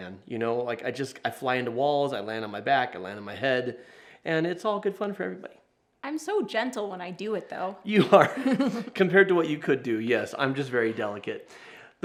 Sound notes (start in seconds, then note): 8.0 chuckles